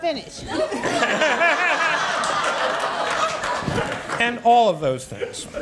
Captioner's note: audience laughs